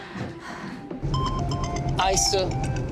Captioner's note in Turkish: Telefon zili sesi